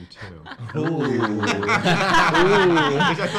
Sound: laugh; laughs

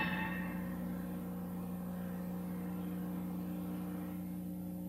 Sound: videocassette static

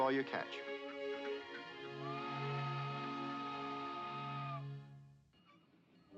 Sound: whistle blows

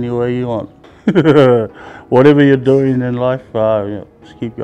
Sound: laughs

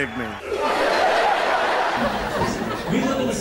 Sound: laughter

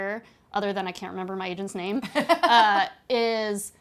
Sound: laughing

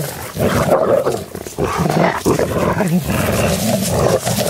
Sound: dogs growling

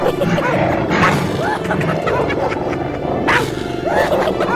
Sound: צבועים צוחקים

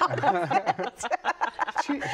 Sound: laughter

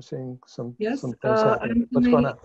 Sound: murmurs

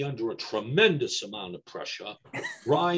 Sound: laughs

